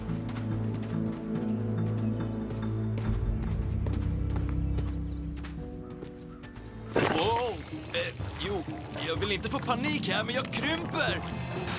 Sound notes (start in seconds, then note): none